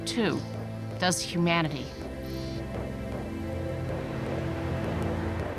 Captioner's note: insects and birds chirping